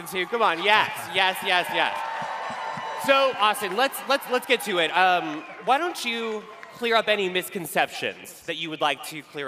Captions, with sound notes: Come on, yes, yes, yes, yes. [cheering] So Austen, let's get to it. Why don't you clear up any misconceptions that you would like to clear up.